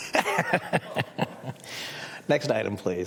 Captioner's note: laughter